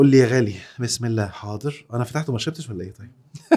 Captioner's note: laughs!